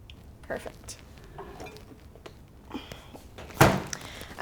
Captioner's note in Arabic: رش الماء